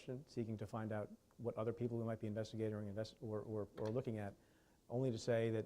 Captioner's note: stutters